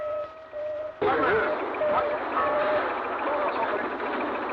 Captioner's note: indistinct conversation